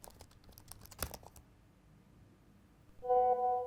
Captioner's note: keyboard typing; computer clicks